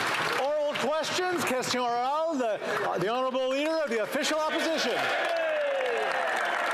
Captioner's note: applause